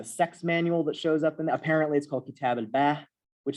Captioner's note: non-english